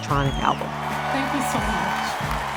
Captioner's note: soundbite of archived recording